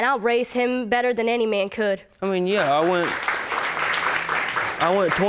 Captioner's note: audience applauding